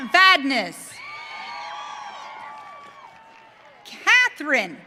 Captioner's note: audience cheering